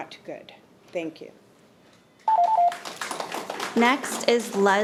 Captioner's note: audience applauding